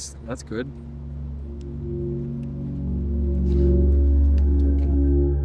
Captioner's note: low tone rising